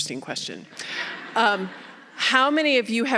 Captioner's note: audience laughing